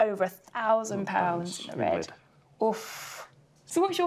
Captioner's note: gasps